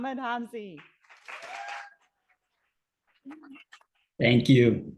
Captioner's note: audience applauding